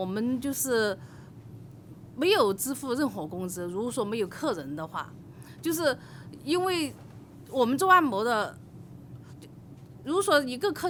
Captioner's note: speaking foreign language